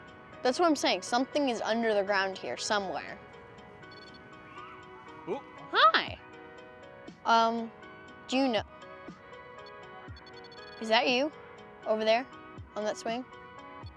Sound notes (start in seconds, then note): 3.9 REM-Pod trills